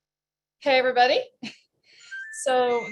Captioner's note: chuckles